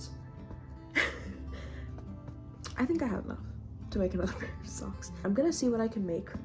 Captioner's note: laughs